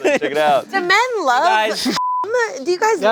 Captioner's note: beep